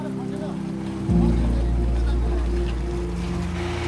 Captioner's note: motorcycle revving